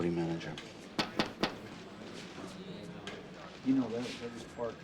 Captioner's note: knocking on door